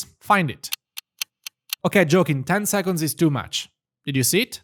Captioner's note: clock ticking